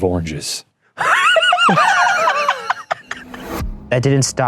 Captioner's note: both laughing